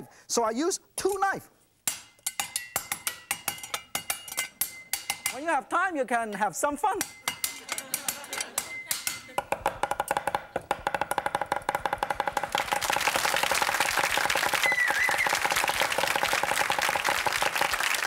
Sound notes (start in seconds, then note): 1.8 beats knife rhythmically; 7.5 audience laughs; 12.3 audience claps